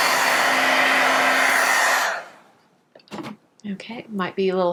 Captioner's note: whirring